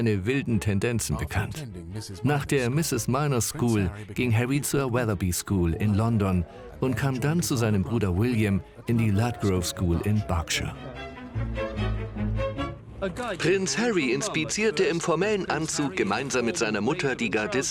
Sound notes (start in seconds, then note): 10.9 engergetic music; 13.0 voiceover